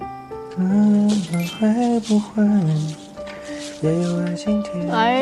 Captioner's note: humming